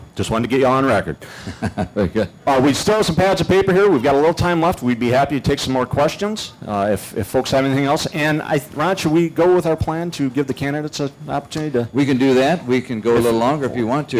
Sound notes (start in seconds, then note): 1.4 laughter